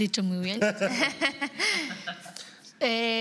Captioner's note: they laugh